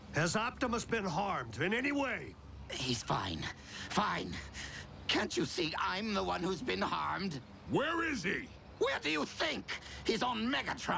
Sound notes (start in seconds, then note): none